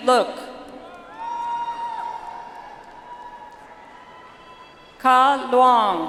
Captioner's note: audience applauds